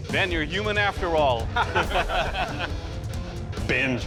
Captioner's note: laughter